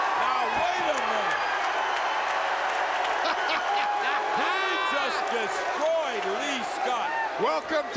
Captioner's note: laugh